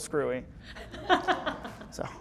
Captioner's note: laughter